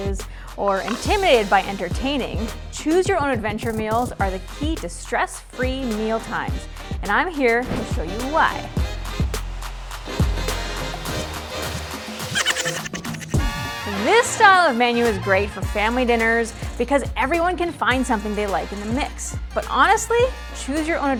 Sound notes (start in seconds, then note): 13.4 horns; 14.0 chuckle sound effect